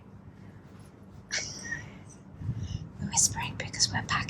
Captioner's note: laughing